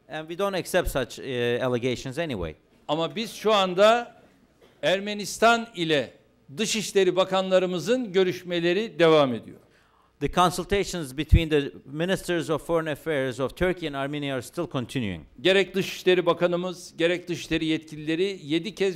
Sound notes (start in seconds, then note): 4.6 non-english speech; 17.2 non-english speech